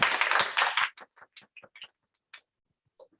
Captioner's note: applause